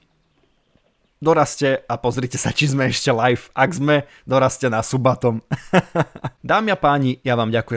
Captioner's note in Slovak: smiech